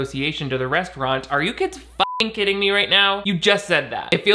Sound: beeping

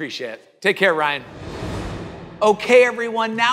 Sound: air swooshing

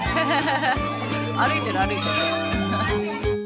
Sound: laughing

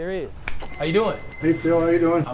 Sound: bell dings

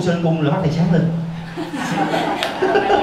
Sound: laughs

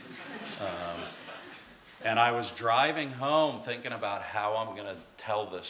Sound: laughter

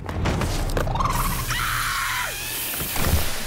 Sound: squeaking, screaming

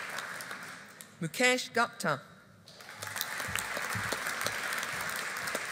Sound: audience applauding

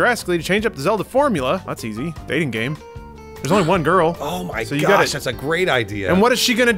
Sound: gasps

